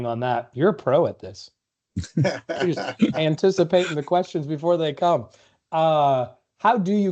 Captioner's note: laughter